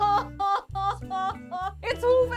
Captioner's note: crying